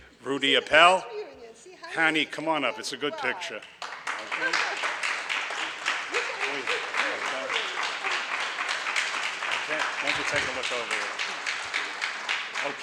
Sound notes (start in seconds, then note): 3.7 audience applauds